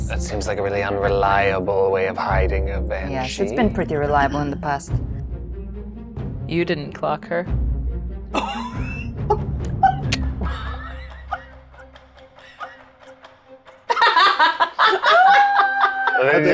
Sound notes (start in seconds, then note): 9.6 laughs